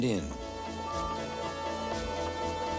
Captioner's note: toot toot